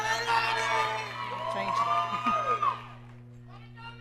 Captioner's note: audience cheering